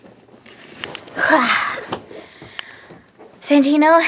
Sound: sighs

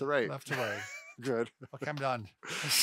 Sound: laughing

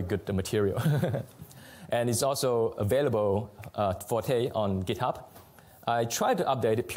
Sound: laughs

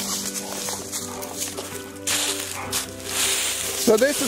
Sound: leaves crunching

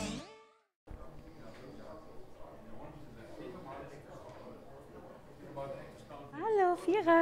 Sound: background noises in the café

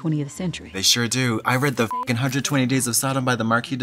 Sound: beep

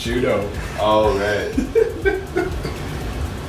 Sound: laughing

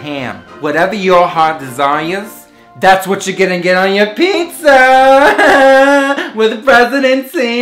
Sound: laughing

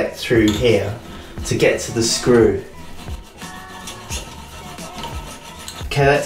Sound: sawing noises

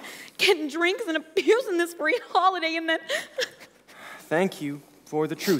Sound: cries

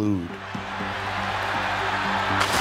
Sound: crowd cheering

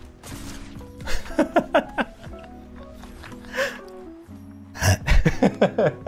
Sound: laughter

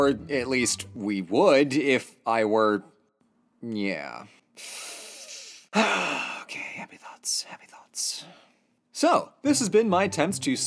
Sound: sharp inhale

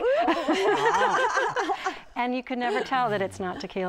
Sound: laughter

